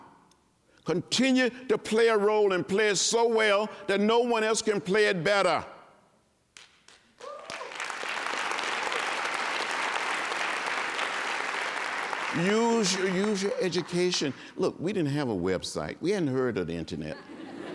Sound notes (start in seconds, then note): 3.6 applause; 14.2 laughter